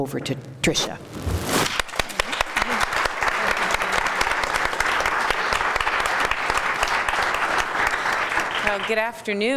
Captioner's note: applause